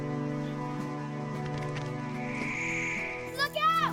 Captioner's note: rocks moving; crystal shimmering